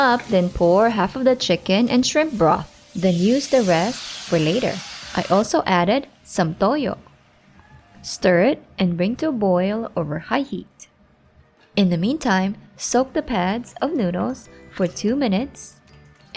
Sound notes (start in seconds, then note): 5.0 oil sizzling